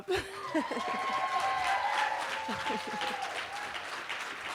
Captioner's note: cheering